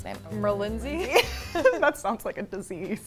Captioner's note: both laughing